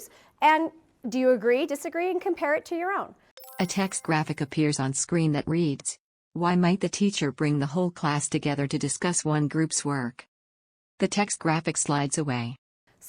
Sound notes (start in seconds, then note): 3.3 chime